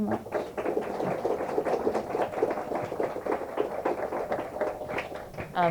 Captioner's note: applause